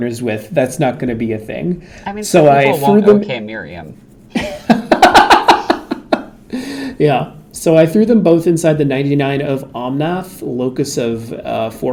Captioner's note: laughs